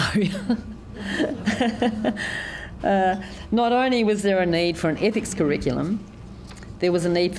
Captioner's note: chuckles